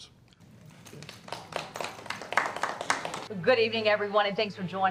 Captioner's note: group applauds